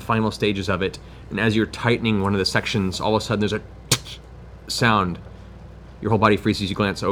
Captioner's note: cracking